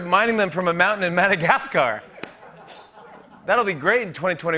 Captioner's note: laughter